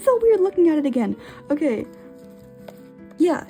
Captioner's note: inhale